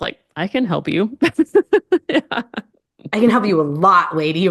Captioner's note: laughs